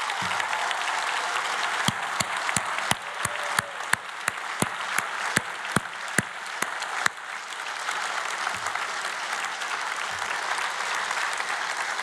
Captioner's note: applause